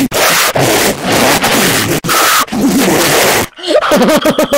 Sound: huhuhuehuyhuhuhuhuhuhuhuhuhuhuhu#

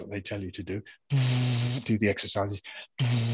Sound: makes blowing sound

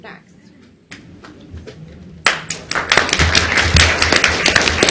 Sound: audience applauds

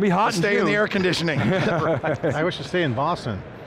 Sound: lauging

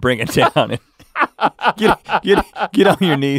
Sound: laughing

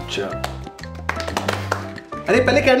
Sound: clapping

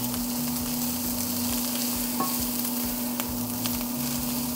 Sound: sizzling of bacon

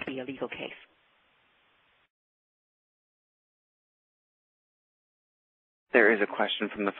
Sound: pause

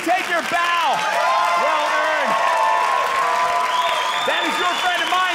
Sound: audience cheering

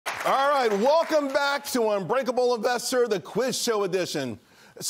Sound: cheers and applause

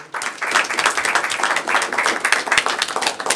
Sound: applause

